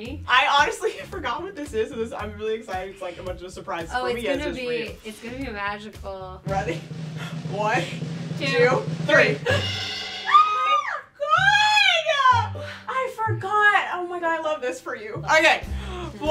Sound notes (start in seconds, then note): 10.2 screaming